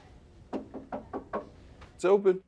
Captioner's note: knocking on door